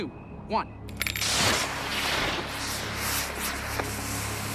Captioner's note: rocket hisses